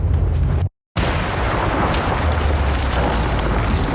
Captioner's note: cave exploding